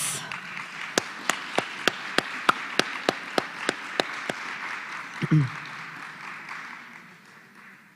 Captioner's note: applause